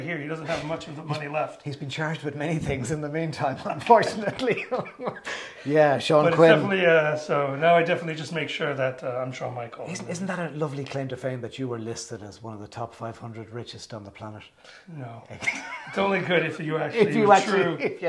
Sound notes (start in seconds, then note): 3.8 both laughing